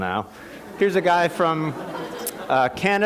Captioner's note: laughter